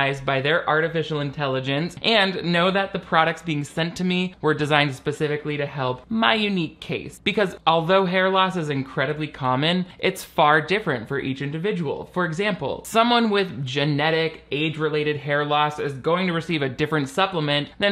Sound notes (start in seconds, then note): none